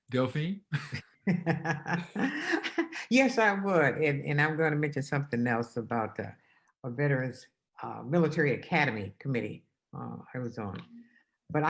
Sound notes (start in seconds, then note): 1.4 laughs